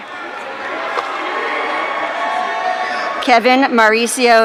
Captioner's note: audience cheering